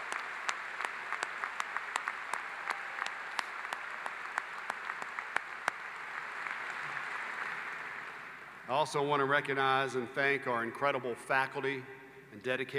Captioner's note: applause